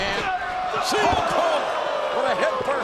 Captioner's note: bodies thud